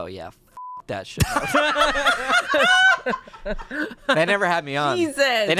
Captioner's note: group laughs